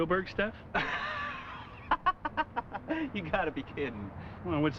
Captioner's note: laughs